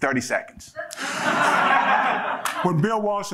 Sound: audience laughing

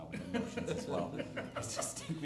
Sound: laughter

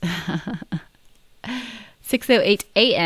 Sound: laughs

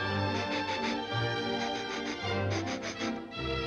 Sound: sniffing

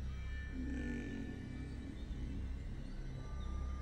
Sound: growls

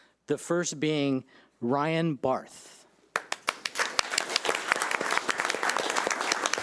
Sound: audience applauding

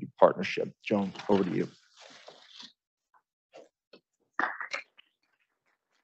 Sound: audience applauding

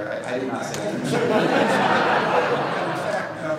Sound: laughter

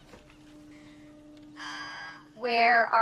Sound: sighs

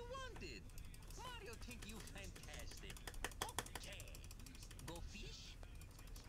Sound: extensive clicking intensifies

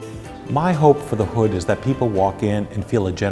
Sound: voiceover

